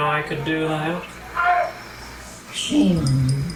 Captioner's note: none